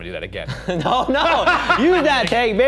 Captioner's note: laughing